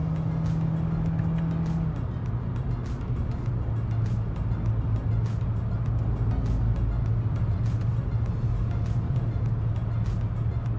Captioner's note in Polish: skrzynia szybko wbija wyższy bieg